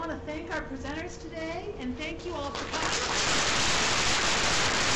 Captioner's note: applause